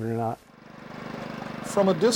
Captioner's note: machine whirring